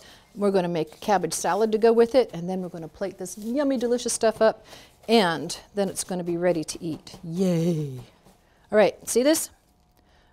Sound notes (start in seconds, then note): none